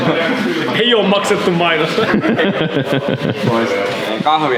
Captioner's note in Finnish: naurua